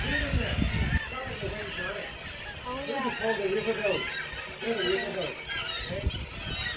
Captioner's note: bird sounds intensifying; loud bird noises